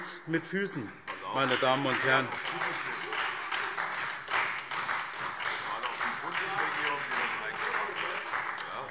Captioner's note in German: Beifall SPD und Freie Demokraten - Zuruf Ministerpräsident Volker Bouffier